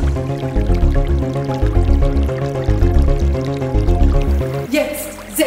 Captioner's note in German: Wasserplätschern